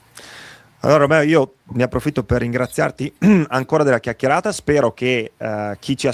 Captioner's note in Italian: schiarire la voce